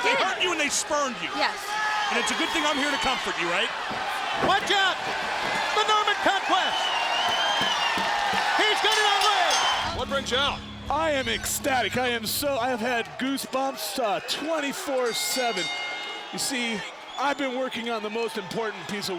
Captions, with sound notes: They did! They hurt you and they spurned you. Yes. And it's a good thing I'm here to comfort you, right? Watch out! It's the Norman conquest! (crowd cheering) He's got it on Ray! What brings ya out? I am ecstatic, I have had goosebumps 24/7. (bell ringing) You see, I've been working on the most important piece